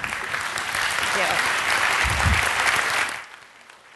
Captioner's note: applause